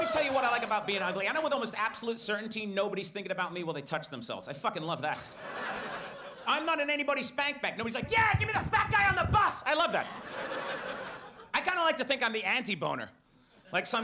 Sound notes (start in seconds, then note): 5.2 audience laughs; 9.8 audience laughs